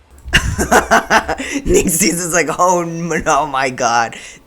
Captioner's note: laughter